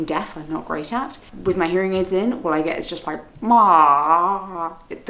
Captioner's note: groans